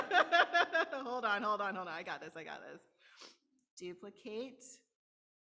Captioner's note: laughter